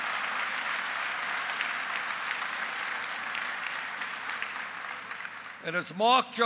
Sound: applause

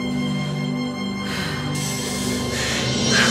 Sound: Daniel exhaling; Danielle exhaling; Daniel inhaling; Kevin inhaling; inhaling; Danielle inhaling; Kevin exhaling; exhaling

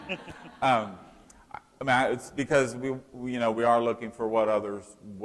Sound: laughter

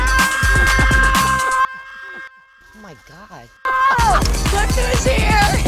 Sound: screams

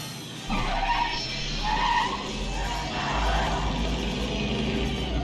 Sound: tires squealing

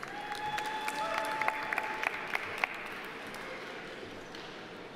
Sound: audience applauding

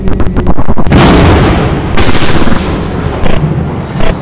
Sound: thunder Strikes

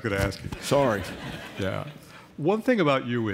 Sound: laughter

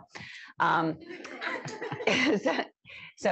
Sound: laughter

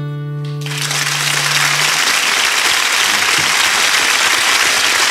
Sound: melancholy guitar music; audience clapping

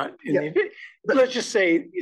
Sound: laugh

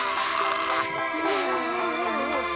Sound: coughing; spraying; groaning

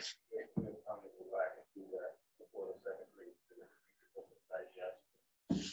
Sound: faintly speaking

